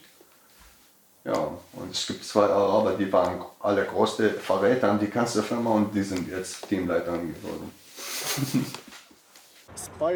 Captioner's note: laughs